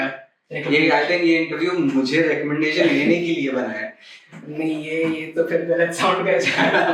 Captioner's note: laughs